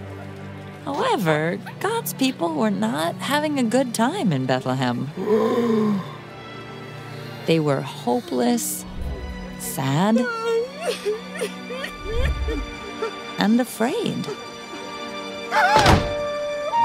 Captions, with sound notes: -However, God's people were not having a good time in Bethlehem. [GASPS] -They were hopeless... Sad... [CRYING] And afraid. [SCREAMS]